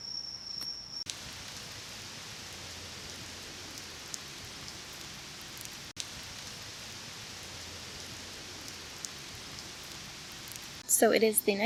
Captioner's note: sound of rain drops pattering